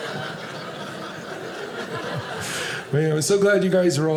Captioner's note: audience laughing